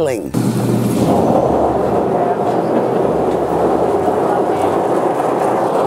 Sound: baling machine spinning

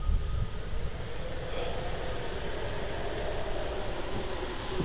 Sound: wind rustles in from open window

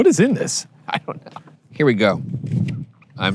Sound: laughing

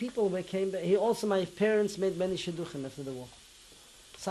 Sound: non-english

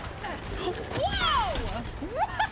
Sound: gasp

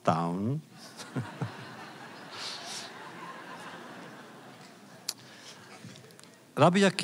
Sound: laughter

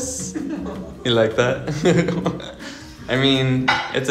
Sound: laughing

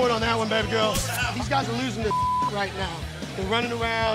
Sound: beep

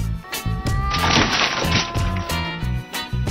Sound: tuxado Cat Moaning meow; tuxado Cat Yowling

